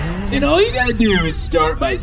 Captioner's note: hesitant